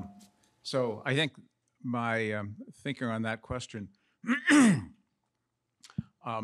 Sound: coughs

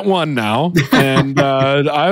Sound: laughs

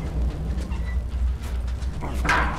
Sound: wheels squeak

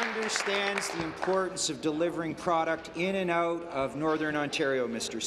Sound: applause

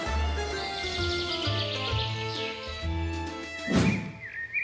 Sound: mischievous music; birds chirping

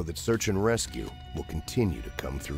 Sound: voiceover

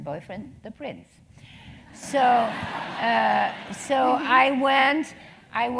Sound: laugh

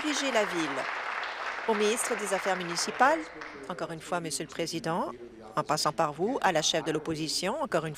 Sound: applause

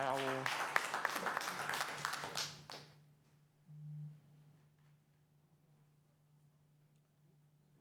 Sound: applause

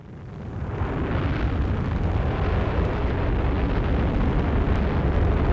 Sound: rocket engines roaring

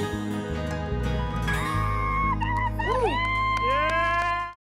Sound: screaming

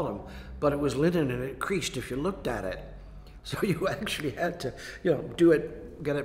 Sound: laughs

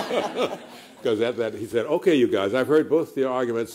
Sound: laughter

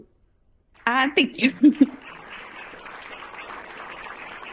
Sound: crowd clapping

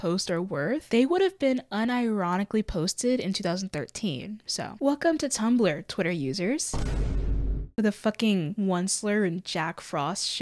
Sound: boom

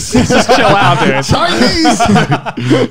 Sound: men laughing

